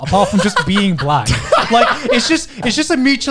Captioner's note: laughs